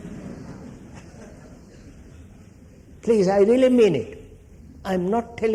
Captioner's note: laughter